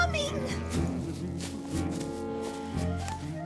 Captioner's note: humming